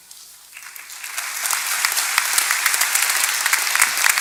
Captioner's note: applause